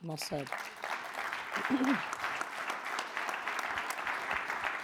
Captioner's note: audience applauds